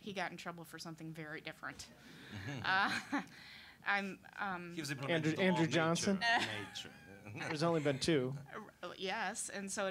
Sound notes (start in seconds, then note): 2.2 audience laughing